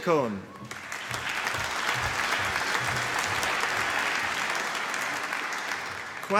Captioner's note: applause